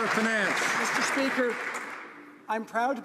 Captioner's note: some Applause